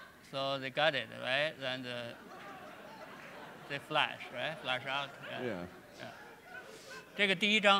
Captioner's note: speaking in Chinese